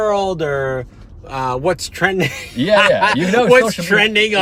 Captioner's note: laughing